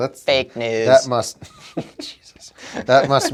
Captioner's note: laughing